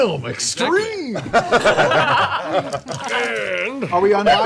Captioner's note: laughing